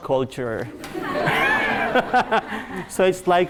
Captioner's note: laughing